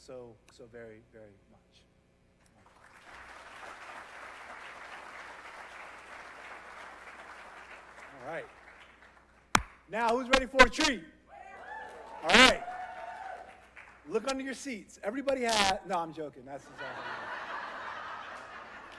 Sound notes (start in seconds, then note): 11.6 applause